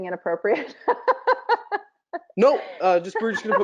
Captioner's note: laughing